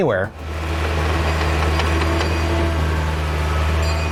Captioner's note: sounds of construction